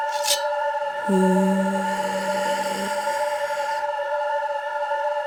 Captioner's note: deep breath